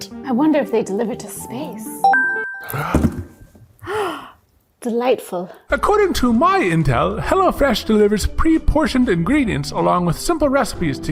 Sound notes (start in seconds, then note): 2.0 bell dinging; 3.8 gasps